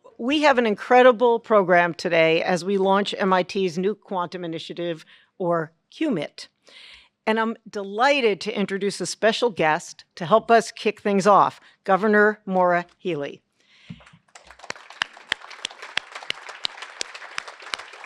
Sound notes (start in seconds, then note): 13.9 applause